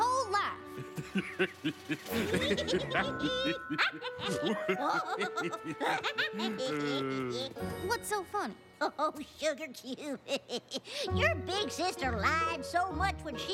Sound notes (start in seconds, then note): 3.9 laughing